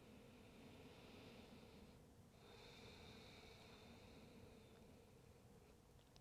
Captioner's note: breathes deeply